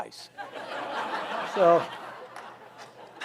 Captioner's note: audience laughs